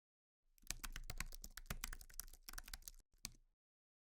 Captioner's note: keyboard clicking